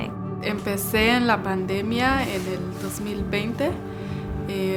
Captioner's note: speaking Spanish